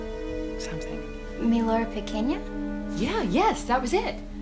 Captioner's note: Maddie speaking Spanish